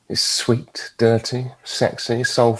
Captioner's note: none